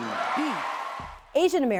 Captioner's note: applause and cheers